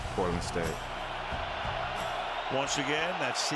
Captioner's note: cheering